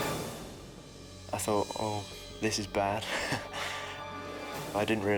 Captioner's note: laughs